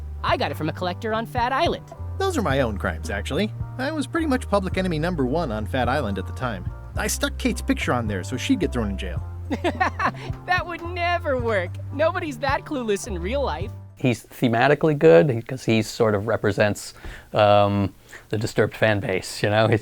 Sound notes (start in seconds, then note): 9.5 laughing